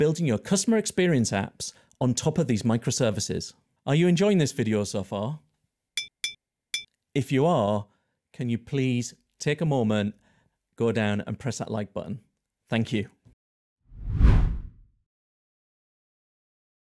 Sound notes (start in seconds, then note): 6.0 screen clinking; 13.9 text whooshes